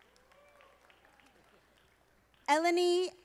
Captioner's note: audience applauding